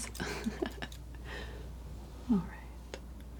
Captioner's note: laughter